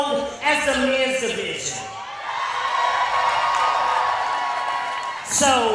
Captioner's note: audience cheers